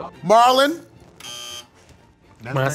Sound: buzzer beeping

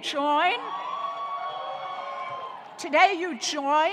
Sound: audience cheering

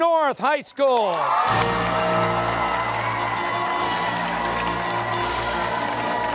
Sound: cheers and applause

